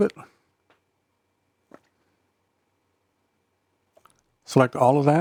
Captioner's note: silence